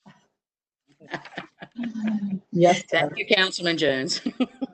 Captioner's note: laughs